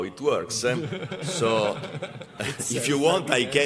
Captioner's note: laughter